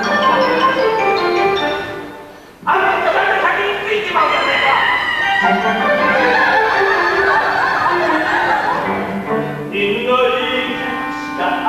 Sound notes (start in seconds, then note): 4.2 the girls come forth with childish laughter